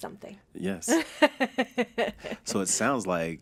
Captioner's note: laughing